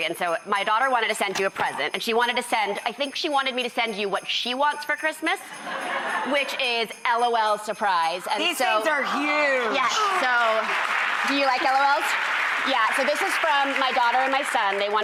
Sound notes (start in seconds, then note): 5.7 audience laughs